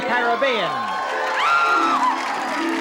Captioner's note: screams